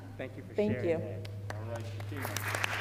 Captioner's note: applause